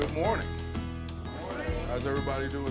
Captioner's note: crowd In Unison